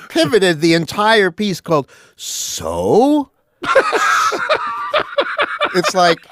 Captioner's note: laughs; laughs